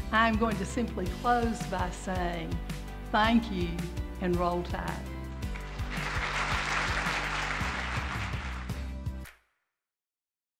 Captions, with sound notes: I am going to simply close by saying thank you and Roll Tide. (audience claps) (upbeat music)